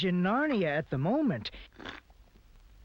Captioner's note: slurps tea